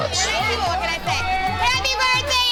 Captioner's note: group rowdily toasting